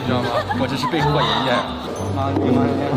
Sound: hahaha

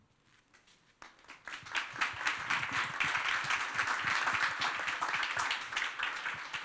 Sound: applause

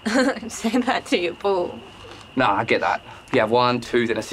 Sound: laughs

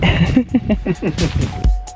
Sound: laughter

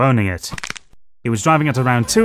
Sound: crack

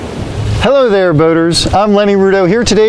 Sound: waves crashing

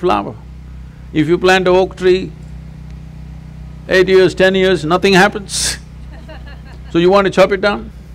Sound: few laugh

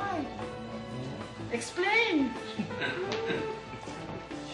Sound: laughs

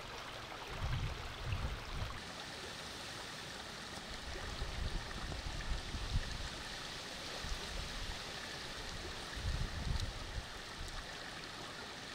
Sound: sound of the river

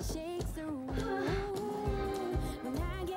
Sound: woman moans loudly

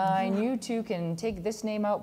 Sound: laughs

